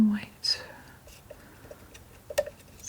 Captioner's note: tapping